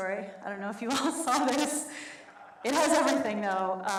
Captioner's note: laughs